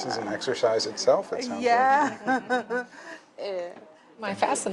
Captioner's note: laughs